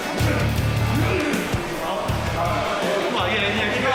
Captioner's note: grunting